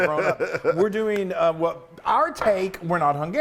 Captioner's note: laugh